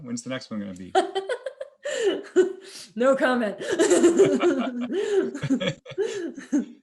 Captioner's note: laughs